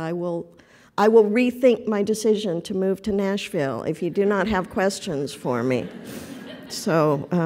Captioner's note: laughter